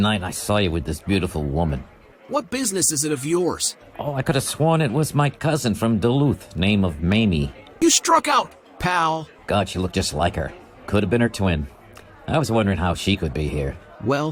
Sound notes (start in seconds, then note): none